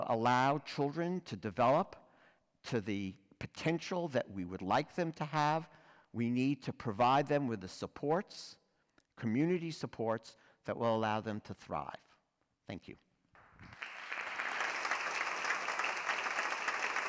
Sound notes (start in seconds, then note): 13.3 applause